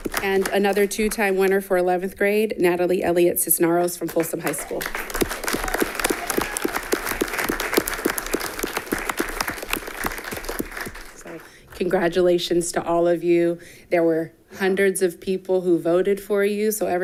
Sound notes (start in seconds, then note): 4.0 all clapping